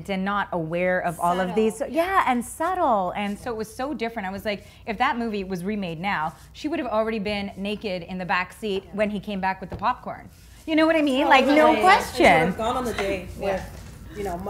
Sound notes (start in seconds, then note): 11.5 women agreeing